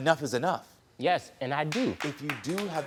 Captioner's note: audience light applauding